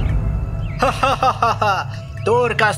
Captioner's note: Anis laughs